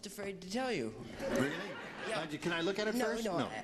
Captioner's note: laughing